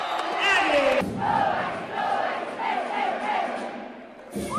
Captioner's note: chanting